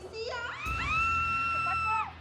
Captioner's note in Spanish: gritos